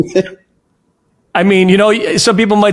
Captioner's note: laughs